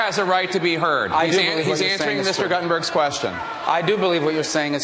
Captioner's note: audience reacts